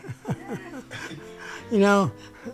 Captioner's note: laughs